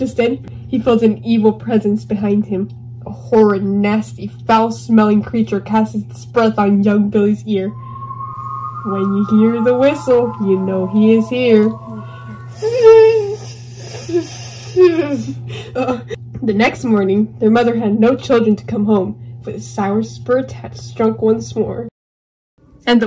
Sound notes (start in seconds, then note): 7.6 whistle